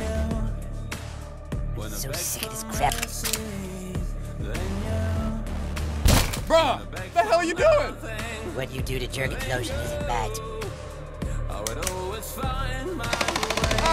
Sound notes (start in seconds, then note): 2.8 gun loading; 6.1 door breaks; 13.1 gunshot sounds